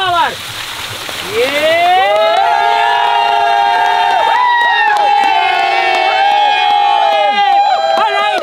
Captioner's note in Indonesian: Teriakan